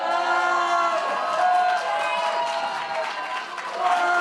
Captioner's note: protestor boos